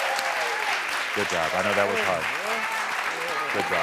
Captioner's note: audience applauds